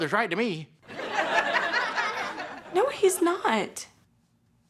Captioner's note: laughter